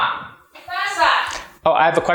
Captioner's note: speaking Spanish